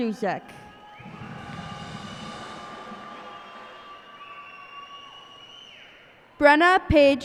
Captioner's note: cheers and applause